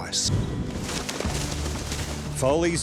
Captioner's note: horses galloping